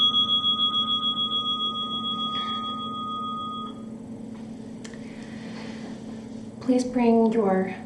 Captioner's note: timer dings